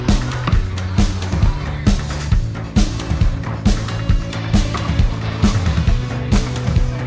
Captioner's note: none